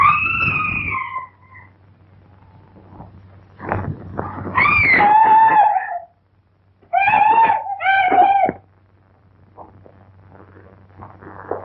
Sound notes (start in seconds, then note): 0.0 screaming; 4.5 screaming